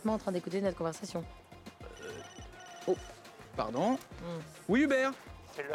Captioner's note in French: dring!